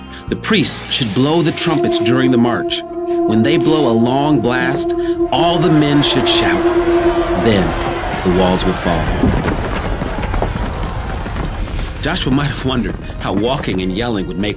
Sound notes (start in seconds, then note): 2.7 horns blow; 6.8 yelling; 9.3 rocks crumbling